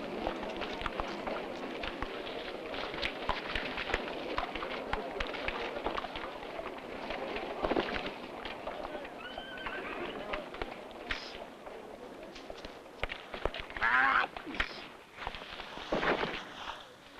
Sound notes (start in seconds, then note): 9.2 horse neighing; 13.6 groans